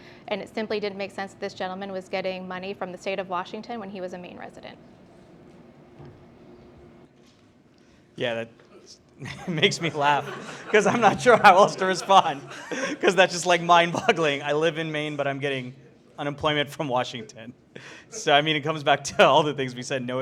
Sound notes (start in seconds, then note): 9.2 laughs; 12.4 all laughing